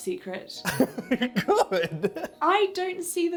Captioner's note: laughs